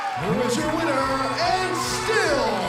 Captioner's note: bell ringing